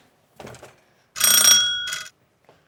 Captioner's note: doorbell rings